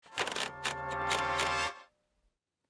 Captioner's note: wheel clicks